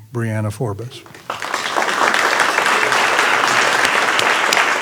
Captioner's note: applause